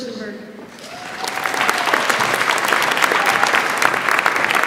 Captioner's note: audience applauds